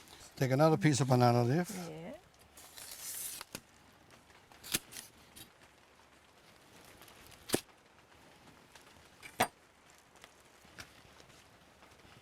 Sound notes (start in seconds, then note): 0.0 wrapping sound; 2.6 crackling sound